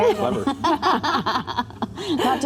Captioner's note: laughter